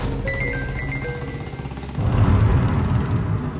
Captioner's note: mobile chimes